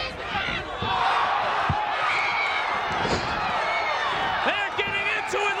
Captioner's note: audience cheers